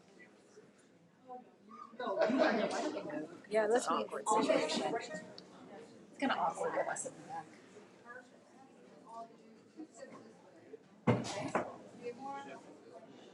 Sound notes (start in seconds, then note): 2.1 audience laughing